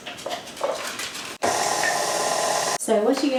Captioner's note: stand mixer whirs